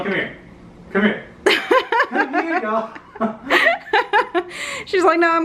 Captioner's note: laughing